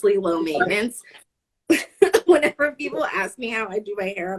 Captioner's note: laughing